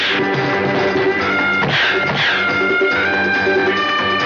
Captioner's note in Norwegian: Biff.. Poff